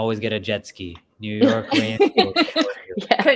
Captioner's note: laugh